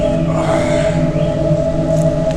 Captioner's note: exhales Sharply